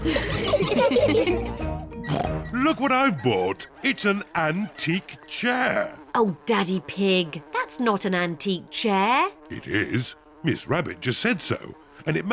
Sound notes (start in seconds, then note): 0.0 all laugh; 2.0 oinks; 5.3 flies buzzing